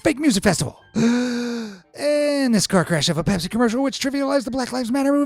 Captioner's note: breaths deeply